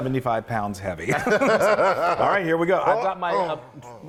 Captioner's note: laugh